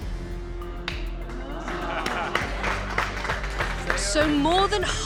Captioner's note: patrons exclaim